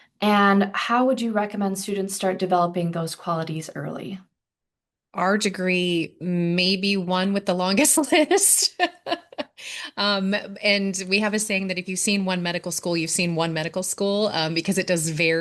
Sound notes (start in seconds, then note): 8.4 laughter